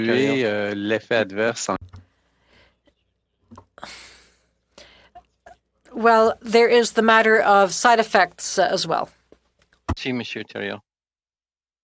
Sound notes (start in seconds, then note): 6.3 speaking French